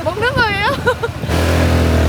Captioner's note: chuckles